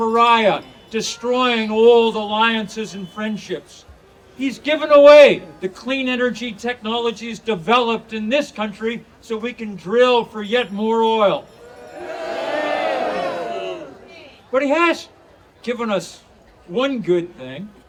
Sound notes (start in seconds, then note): 11.6 audience cheering